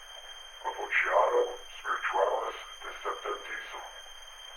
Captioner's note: Chemock speaks Latin